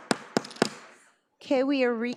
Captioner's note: gavel banging